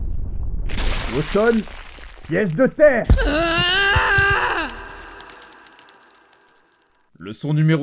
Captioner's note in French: Hurlement Uchiwa